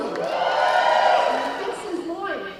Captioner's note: cheering